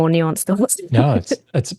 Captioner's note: laughs